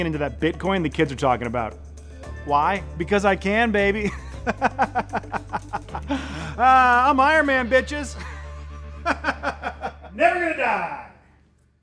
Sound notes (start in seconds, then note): 5.7 laughing; 9.0 laughing